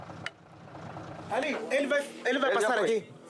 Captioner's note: Portuguese spoken audio